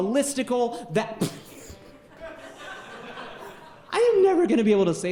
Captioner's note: laughing interrupts speaker